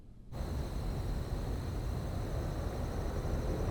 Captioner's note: crickets chirping